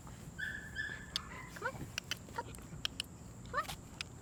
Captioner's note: mouth clicking